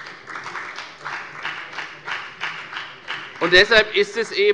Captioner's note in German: Beifall bei der FDP